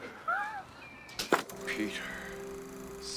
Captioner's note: wheezes